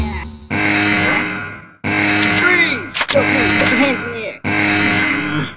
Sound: alarm sound

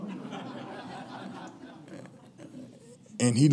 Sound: laughing

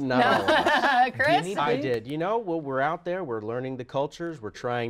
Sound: laughter

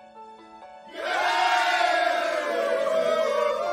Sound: cheering

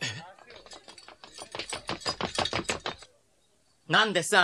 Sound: SFX: armed men running

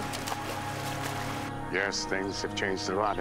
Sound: splashing

